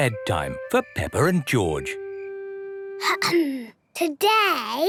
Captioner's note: clears throat